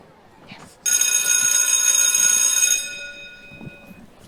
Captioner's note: school bell ringing